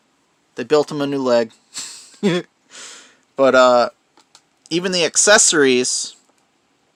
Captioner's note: laughing